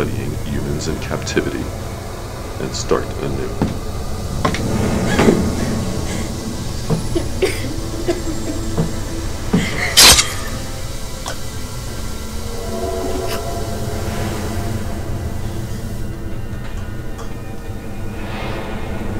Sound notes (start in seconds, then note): 5.0 gasping; 6.8 coughing; 9.9 blade slicing; 15.8 dramatic music